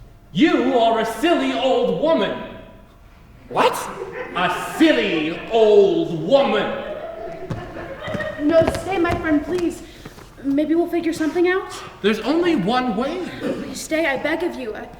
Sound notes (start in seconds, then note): 6.4 audience laughs softly